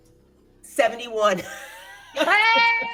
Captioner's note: laughs